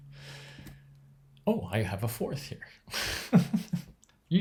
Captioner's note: chuckles